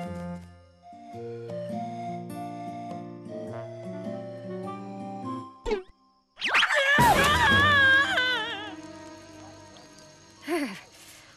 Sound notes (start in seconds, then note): 8.4 screaming